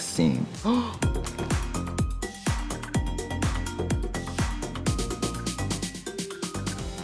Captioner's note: jaunty music; Trixie gasps